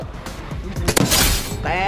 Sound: gunshot firing

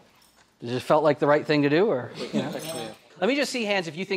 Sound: laughing

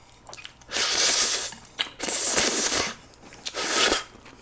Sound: vacuuming the noodles

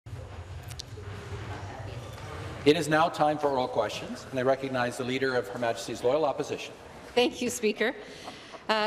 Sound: conversation din

